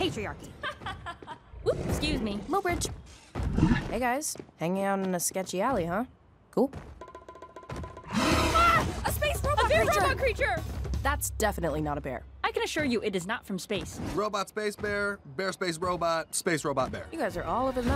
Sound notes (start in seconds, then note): 0.5 laughter; 8.1 roaring